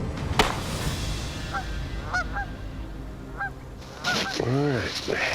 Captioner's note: bird squawking